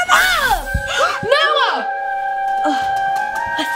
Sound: gasps

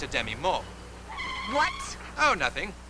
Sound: brakes screech

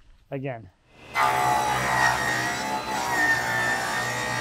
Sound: saw buzzing

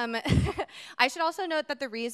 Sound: chuckles

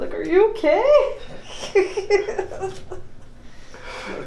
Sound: laughs

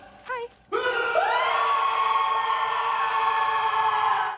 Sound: screams in rude

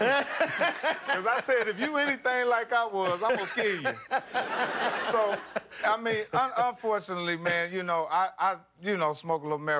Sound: laughter

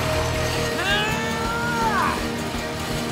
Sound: straining

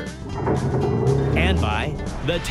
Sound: boat engine roars

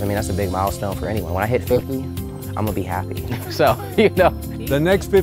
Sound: laughing

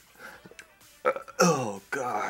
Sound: burp

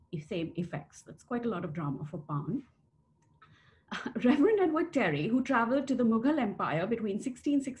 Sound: laughter

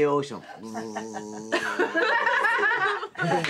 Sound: imitating drone buzzing; all laughing

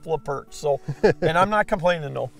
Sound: laughing

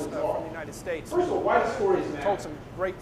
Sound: speaker echoes

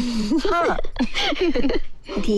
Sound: laughs

